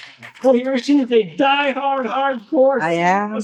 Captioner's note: cheering